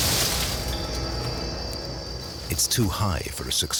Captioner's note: snake hisses